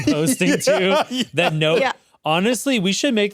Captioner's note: laughs